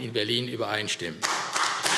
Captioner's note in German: Beifall AfD